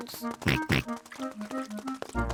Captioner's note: oinks